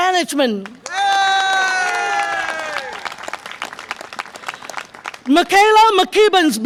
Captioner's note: audience applause and cheer